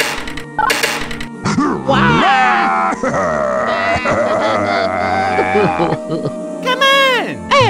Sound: panicking and crying

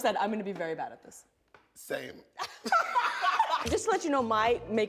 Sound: laughter; upbeat music

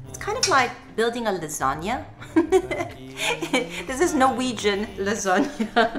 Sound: laugh

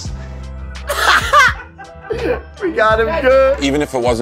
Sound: laughs

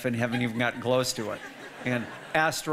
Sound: audience laughing

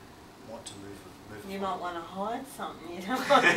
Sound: all laugh

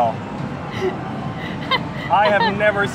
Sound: laughing

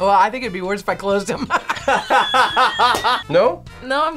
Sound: group laughs

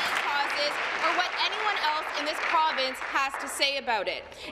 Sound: applause

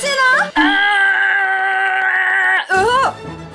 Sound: Beast's cry

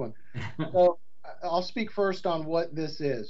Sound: chuckles

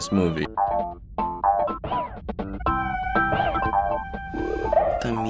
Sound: buzzer

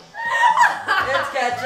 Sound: laughing

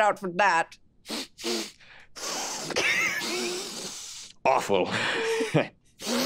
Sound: several long sniffs; intense sniff

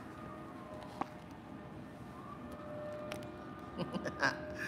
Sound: laughs

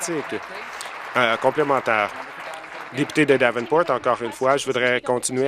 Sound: applause

